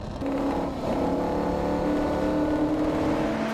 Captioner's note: GP car roar